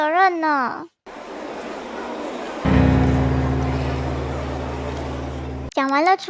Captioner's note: crowd noise